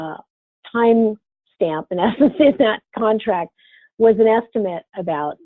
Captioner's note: laughs